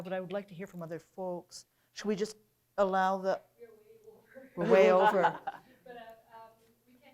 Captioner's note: laughter